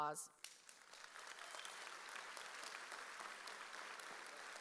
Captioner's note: audience applauds